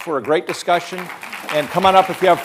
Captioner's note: crowd applauding